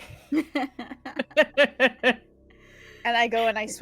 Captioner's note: laugh